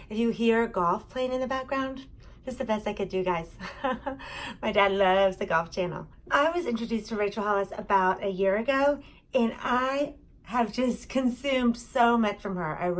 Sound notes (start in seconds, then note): 3.6 chuckling